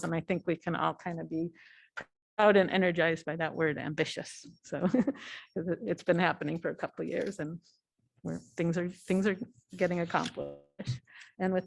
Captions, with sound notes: I think we can all be out and energized by that word ambitious. [LAUGHTER] It's been happening for a couple of years where things are getting accomplished.